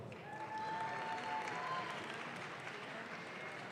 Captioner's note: audience claps